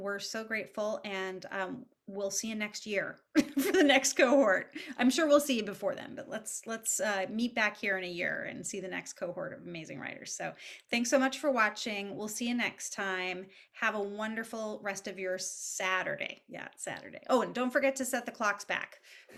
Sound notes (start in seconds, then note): 3.2 laughs